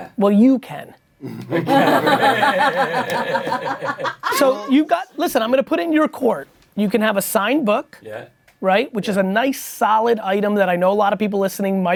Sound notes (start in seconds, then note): 1.5 everyone laughing